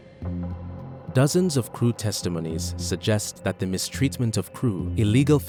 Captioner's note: voiceover